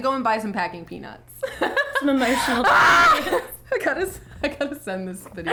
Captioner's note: laughing and yelling